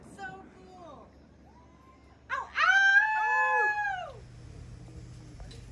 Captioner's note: us howling at the night